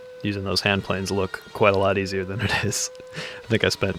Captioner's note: laughs